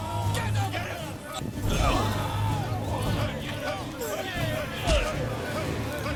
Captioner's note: cheering continues